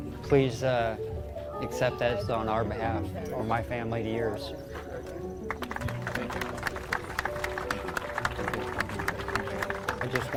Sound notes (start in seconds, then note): 5.4 crowd clapping